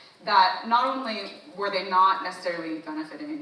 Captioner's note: none